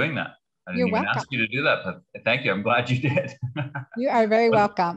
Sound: laughs

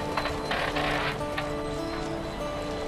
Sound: bright music; mechanical whirring; bright music

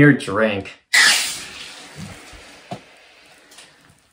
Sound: can cracking open and fizzing

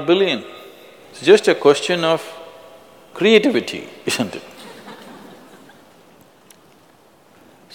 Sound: laughter

